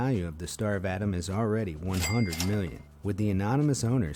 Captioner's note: cash register ringing